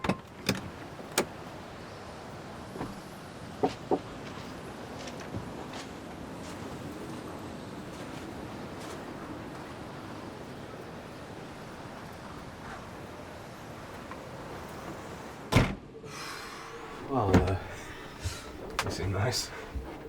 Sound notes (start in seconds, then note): 0.3 opening door; 16.0 breathes deeply; 16.2 closes door